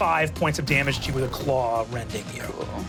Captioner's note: engine powering down